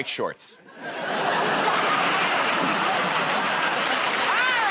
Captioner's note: laughter; applause